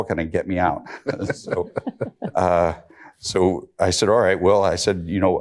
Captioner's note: chuckles